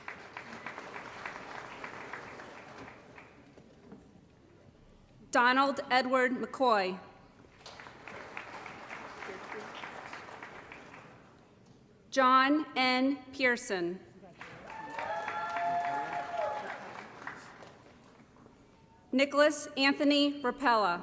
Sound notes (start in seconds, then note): 0.0 applause; 7.5 applause; 14.3 applause & Cheering